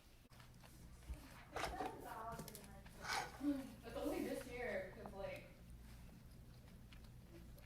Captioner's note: roommates chat in background